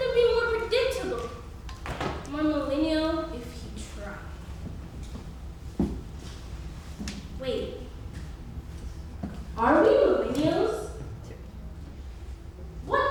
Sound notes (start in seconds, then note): none